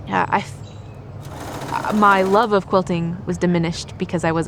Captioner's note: sewing machine sounds